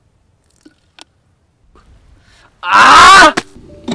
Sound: screaming

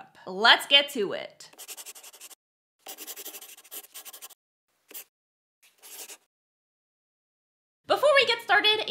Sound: the sound of a pen scratching. LOGO

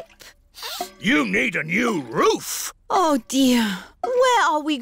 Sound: sniffs

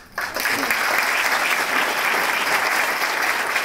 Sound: applause

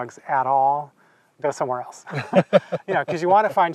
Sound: both laughing

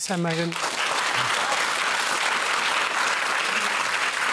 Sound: applause

